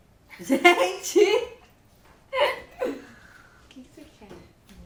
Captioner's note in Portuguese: Risos